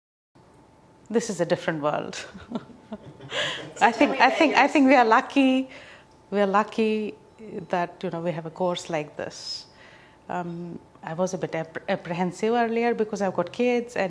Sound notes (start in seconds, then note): 2.9 laughs